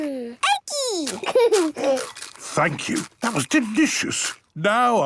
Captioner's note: laughing, crunching